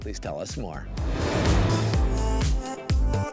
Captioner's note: graphics whooshing; upbeat music